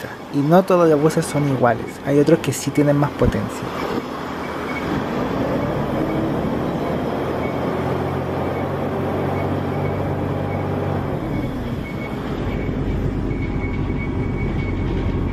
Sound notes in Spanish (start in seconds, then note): 4.0 sonido del motor del bus